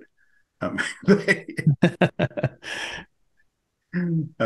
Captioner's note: both laughing